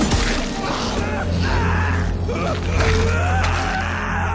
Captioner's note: man screaming